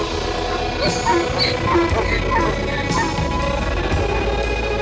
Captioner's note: donkey neighing